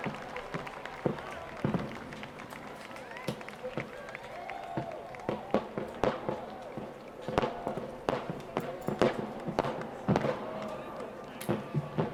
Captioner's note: fireworks